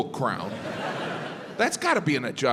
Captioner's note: crowd laughs